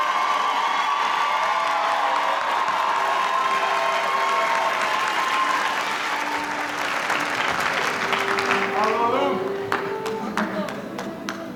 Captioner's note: speaking in foreign language